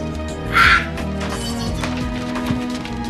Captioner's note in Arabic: صرخات